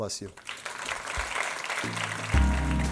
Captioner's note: applause